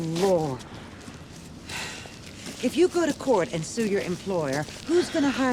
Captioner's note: sighs